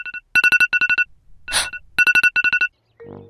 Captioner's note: gasp